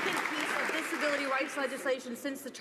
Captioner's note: some applause